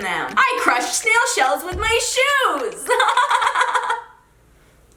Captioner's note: laughs